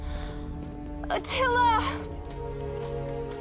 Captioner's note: sighs